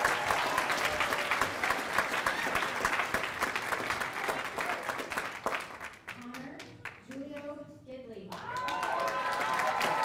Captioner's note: cheers and applause